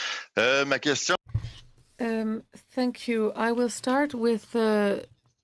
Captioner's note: speaking French